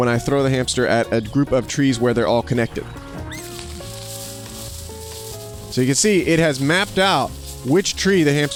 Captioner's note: birds chirping